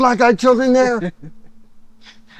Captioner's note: chuckles